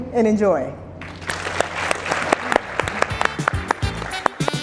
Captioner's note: audience applauding; lively music